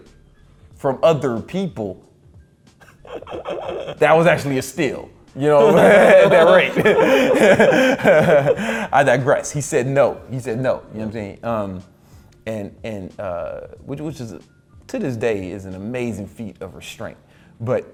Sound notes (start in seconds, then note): 2.8 laughs; 5.5 both laugh